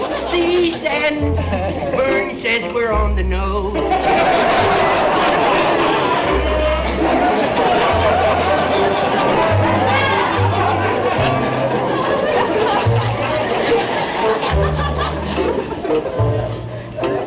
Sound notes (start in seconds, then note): 0.0 singing; 3.8 audience laughter